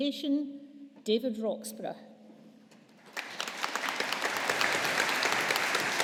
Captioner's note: audience applauding